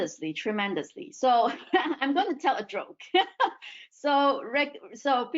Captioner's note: laughs